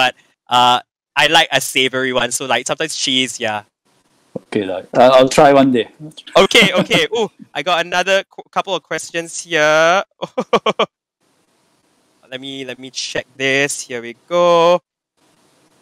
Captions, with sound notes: But, I like a savory one so like sometimes cheese yeah... Okay la, I will try one day. -Okay okay! Ooh, I got another couple of questions here. -(Laughing). Let me check this... here we go.